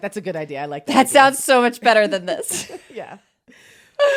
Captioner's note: laughs